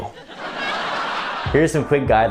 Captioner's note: laughing